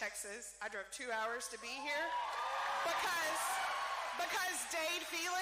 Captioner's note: cheering